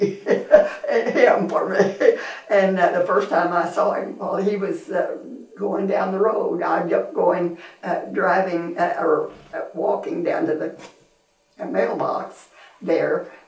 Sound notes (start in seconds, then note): 0.0 laughs